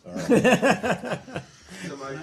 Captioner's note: laughter